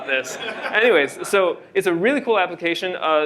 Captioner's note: laughter